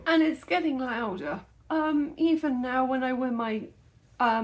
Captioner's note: none